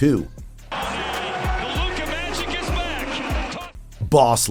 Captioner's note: game audio